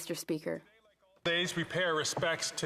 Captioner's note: applause; speaking French